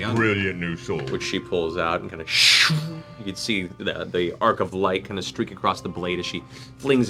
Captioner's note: swish